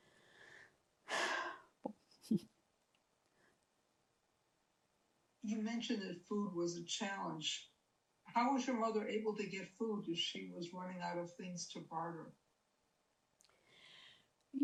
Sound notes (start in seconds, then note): 1.1 sighing